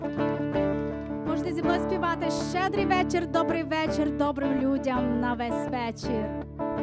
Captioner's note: speaking foreign language